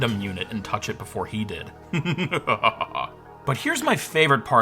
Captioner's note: laughs maniacally